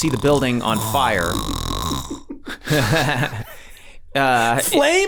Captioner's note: man snoring